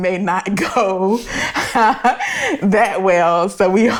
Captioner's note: laughing